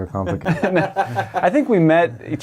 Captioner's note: laughs